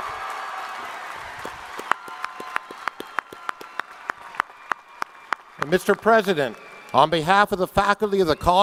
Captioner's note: applause